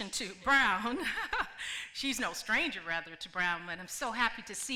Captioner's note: laughs